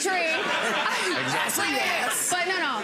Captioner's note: audience laughs